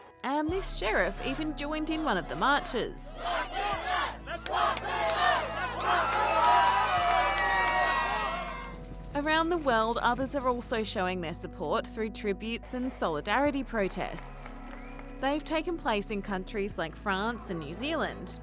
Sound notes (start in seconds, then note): 1.8 crowd chants; 6.3 cheering